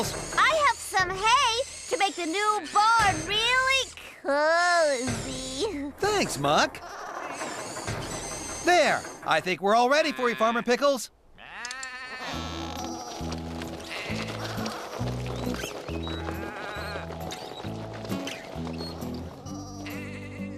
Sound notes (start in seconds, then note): 11.3 sheep Bleating